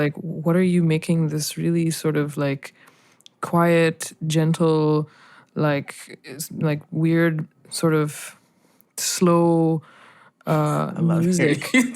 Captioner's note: laughter